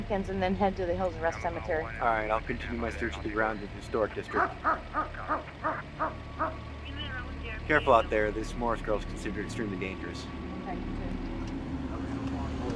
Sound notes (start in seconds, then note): 4.3 dog barking